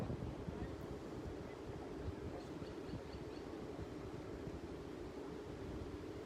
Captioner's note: wind soughing; birds chirping